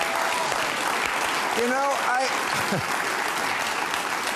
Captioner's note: chuckles